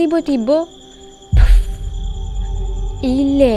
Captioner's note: puff